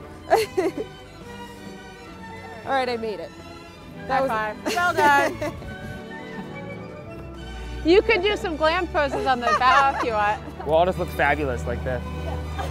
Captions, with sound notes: Alright I made it. - High five, well done. (laughs) You could do some glam poses on the bow if you want. - We'll all just look fabulous like this.